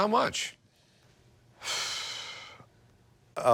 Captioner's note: sighs